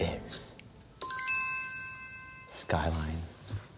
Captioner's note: bell chiming